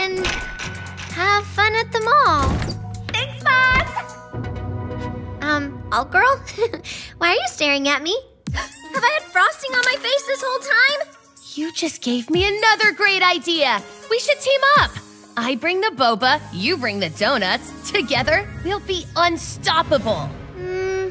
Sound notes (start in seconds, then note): 8.5 gasps